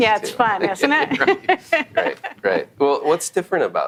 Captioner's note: laughing